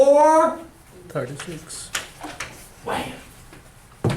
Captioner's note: voiceover